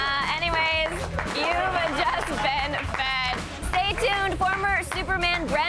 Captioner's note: applause